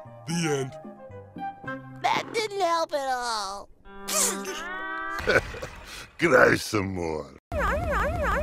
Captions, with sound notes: The end :D That didn't help at all D,: *Weeping* Hehe... Cry some more... Rawr rawr rawr :3